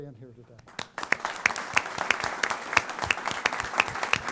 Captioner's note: applause